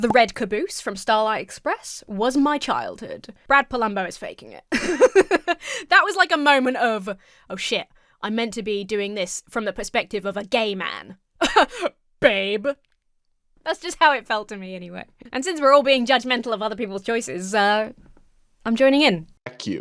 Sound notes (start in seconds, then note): 4.7 laughs; 11.4 laughs haughtily